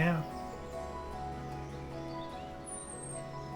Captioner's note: birds chirp